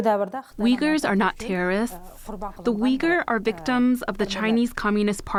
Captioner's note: through translator